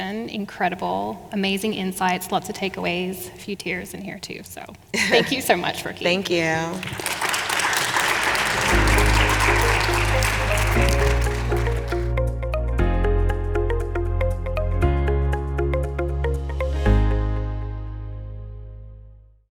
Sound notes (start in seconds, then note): 6.7 audience applauding; 11.0 soft upbeat music